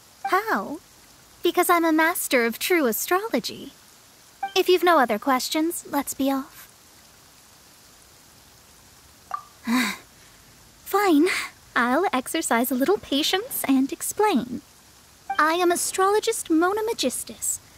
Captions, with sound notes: How? Because I'm a master of true astrology. If you've no other questions, let's be off. For starters, who are you? *sigh* Fine, I'll exercise a little patience, and explain. I am Astrologist Mona Megistus.